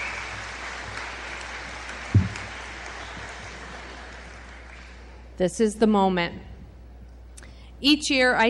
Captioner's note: applause